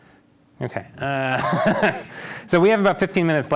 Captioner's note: laughs